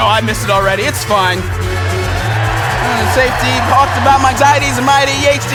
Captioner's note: cheers